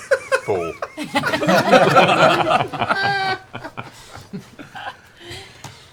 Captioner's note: laughter